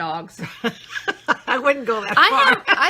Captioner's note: laughing